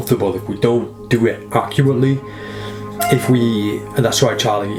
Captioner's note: cat meows